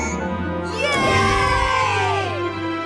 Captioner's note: all cheering